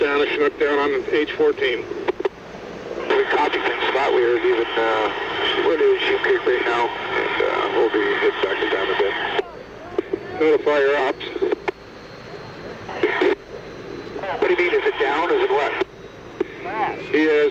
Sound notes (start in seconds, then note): 2.9 static drowns out voice